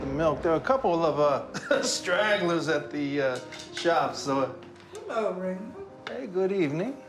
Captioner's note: jazz music plays; chuckles